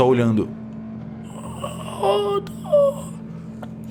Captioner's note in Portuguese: grunhidos